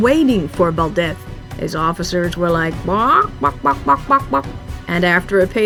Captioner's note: chicken noises